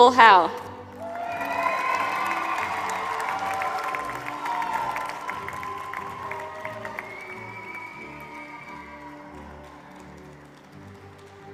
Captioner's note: applause